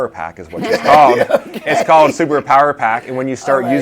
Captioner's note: laughs